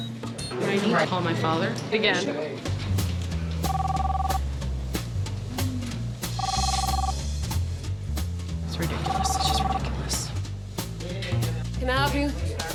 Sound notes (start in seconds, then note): 3.6 line ringing